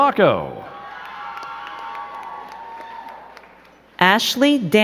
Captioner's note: crowd cheering and clapping